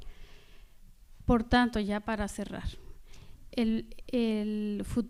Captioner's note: speaking spanish